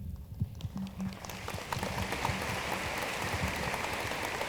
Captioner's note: room applauds